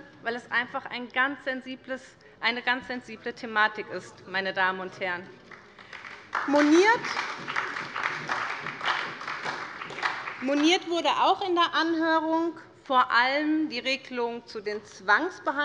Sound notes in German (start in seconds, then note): 5.4 Beifall bei Abgeordneten der SPD und bei der LINKEN